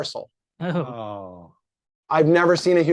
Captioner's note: chuckles